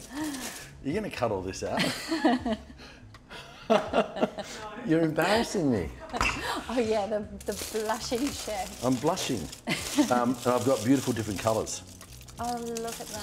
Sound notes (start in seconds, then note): 1.7 both laughing